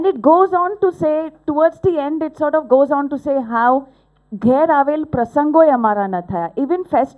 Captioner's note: non-english speech